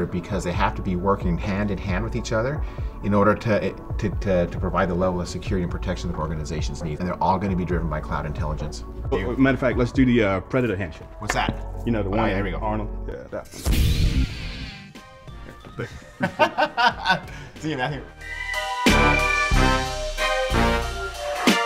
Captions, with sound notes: because they have to be working hand-in-hand with each other in order to provide the level of security and protection our organizations need. And they're all gonna be driven by cloud intelligence. - Matter of fact, let's do the predator handshake. - What's that? - You know the one, Arnold. - All right, here we go. - That's it. (laughs) - See you, man. (up-tempo music)